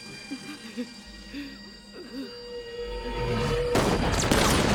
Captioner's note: sobbing; gunfire